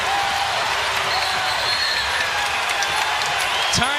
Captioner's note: cheers and applause